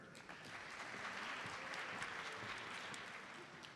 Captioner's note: audience applauds